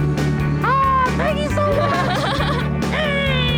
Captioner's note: laughing